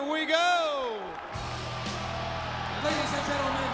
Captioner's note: crowd cheering